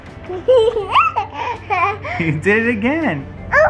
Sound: laughing

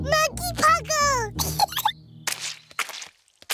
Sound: giggles

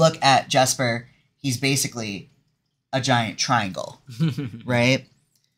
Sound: laughs

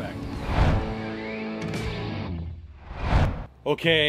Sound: graphic swooshing

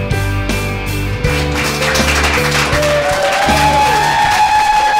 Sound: cheers and Applause

